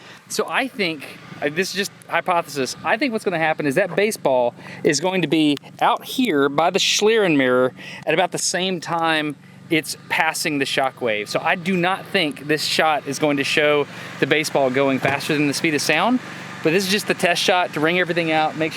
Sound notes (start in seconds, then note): none